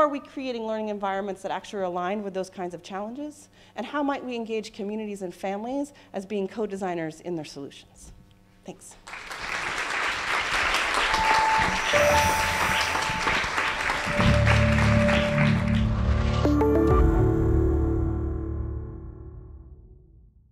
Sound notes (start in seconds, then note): 9.0 clapping